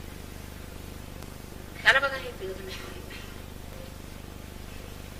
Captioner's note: mother speaks in marathi